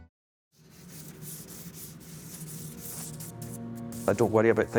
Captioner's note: charcoal rubbing